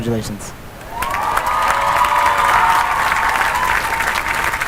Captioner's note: cheering and applause